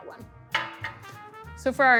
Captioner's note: glass clattering